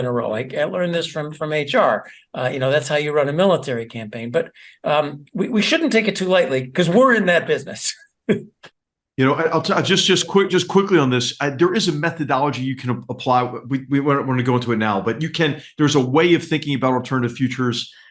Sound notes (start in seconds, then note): 9.4 laugh